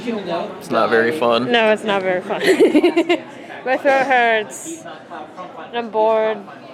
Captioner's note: laughs